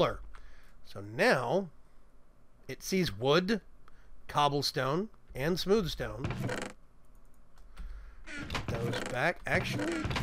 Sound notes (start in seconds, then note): none